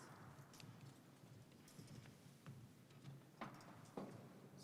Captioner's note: participant whispering